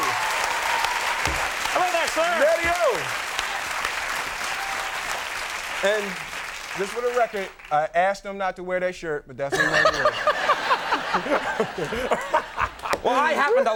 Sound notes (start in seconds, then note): 4.4 audience clapping; 9.5 Conan laughing; 11.5 Will laughing